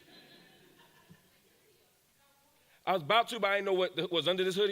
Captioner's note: audience laughs